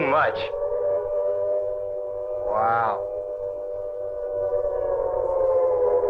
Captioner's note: sirens continue wailing